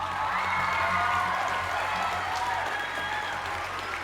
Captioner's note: cheers and applause